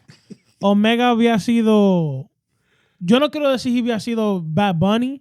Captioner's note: speaking In Foreign Language